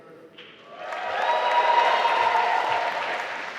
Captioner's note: applause